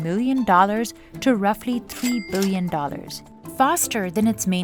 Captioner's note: cash register ka-chings